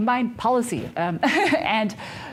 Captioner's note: presenter laughing